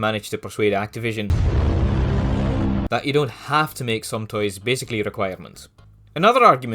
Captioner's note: thud